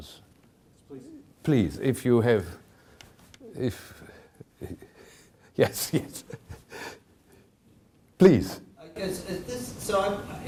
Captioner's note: chuckling